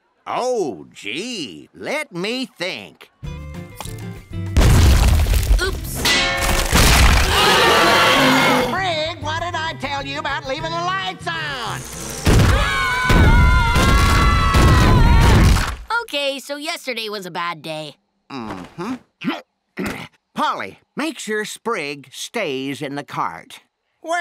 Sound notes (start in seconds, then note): 7.1 roaring; 7.2 screams; 12.4 all screaming